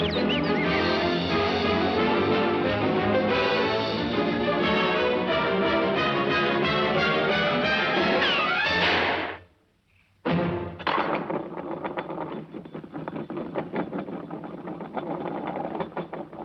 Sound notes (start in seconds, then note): 8.8 head slams; 10.8 decoration rattling